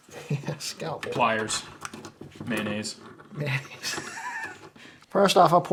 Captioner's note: laughs